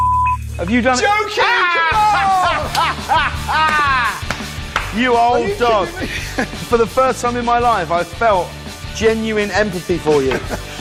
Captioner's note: Cordon laughs; both men laugh